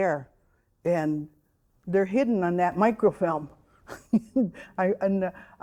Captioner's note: chuckling